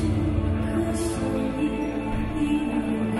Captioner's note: none